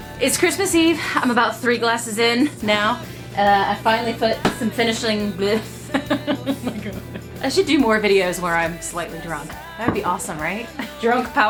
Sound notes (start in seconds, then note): 5.2 laughing